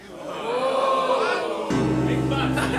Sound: audience: Ohhhhh

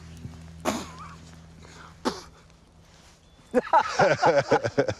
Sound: spitting; all laughing

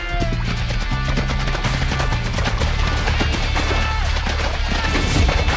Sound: horse running

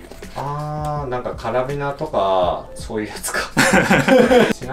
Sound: laughs

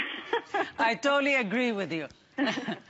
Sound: laughter

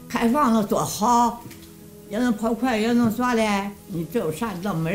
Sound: speaking foreign language

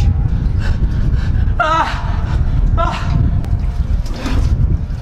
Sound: sounds of fear and misery; sinister Music

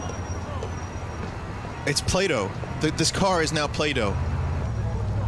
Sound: car breaking

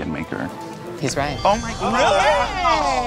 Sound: twinkling

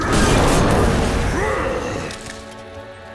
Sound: grunting

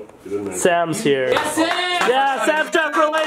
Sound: cheering

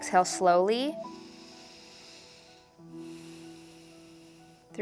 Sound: breathing

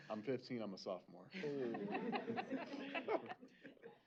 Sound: laughter

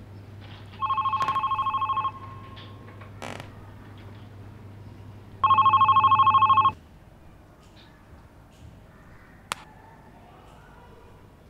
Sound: cell rings

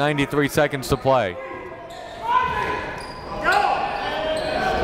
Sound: yelling and cheering

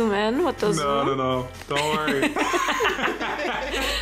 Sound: laughs

